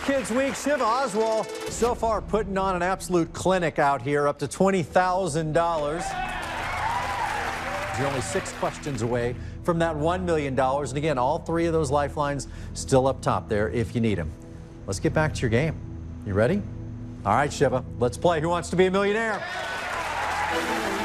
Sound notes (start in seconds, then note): 5.8 cheers and applause